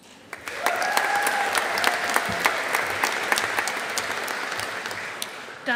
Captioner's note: audience applauding